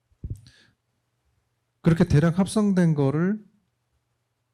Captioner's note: speaking korean